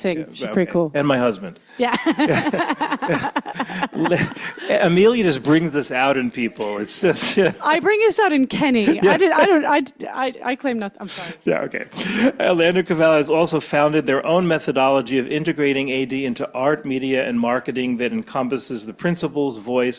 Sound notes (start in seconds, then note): 1.8 laughing; 1.8 laughs